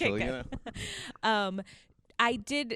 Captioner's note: laughs